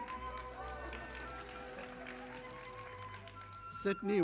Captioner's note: audience applauding